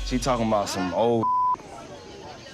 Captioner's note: beep